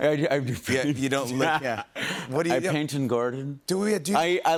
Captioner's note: laughs